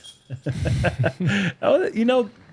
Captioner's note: laughter